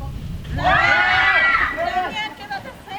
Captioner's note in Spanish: gritos